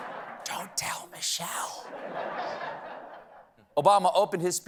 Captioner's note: whispering